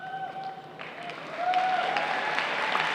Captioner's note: applause